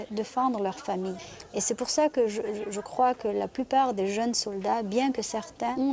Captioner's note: French spoken audio